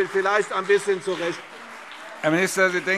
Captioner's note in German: Beifall CDU und BÜNDNIS 90/DIE GRÜNEN - Zurufe